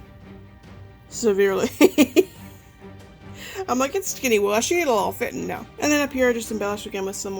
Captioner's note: laughs